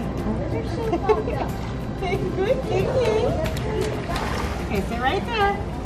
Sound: laughs

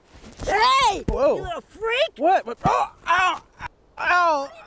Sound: grunting

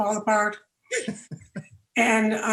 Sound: all laughing

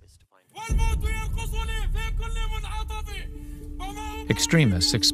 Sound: shouting

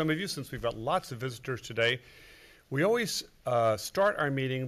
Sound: none

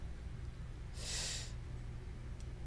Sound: sucks in air

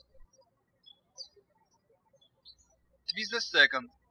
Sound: birds chirping

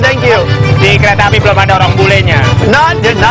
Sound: speaking indonesian

